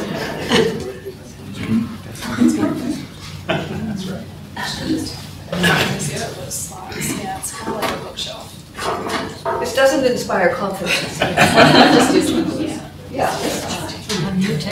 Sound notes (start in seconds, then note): 4.3 furniture movement close to mic drowns out speech; 12.6 laughter